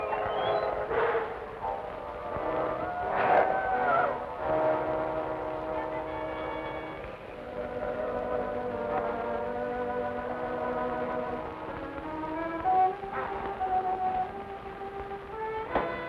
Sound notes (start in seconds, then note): 2.6 wolf howling